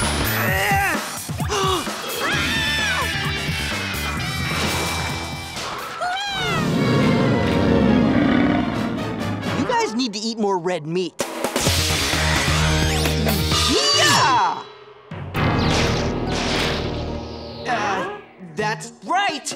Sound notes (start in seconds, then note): 0.5 gasps; 2.0 screaming; 6.3 growling